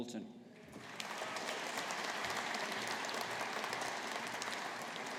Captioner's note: audience applauding